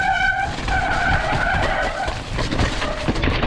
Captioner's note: thudding